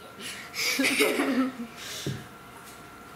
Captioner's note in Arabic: يضحك